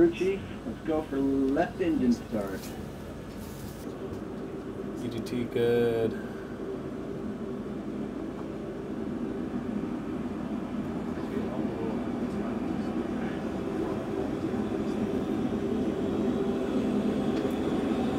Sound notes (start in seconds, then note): 7.5 sound of jet engine